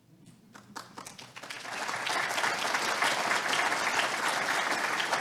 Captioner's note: audience applauding